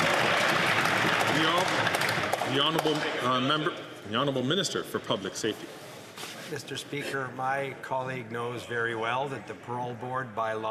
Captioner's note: some Applause